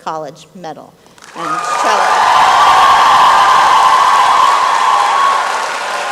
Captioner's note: applause and cheering